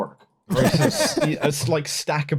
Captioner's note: laughter